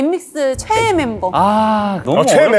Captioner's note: ughhhhh